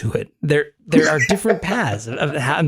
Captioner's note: laugh